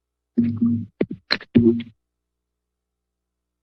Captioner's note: microphone thuds